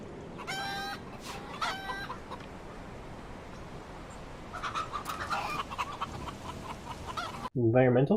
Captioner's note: chickens clucking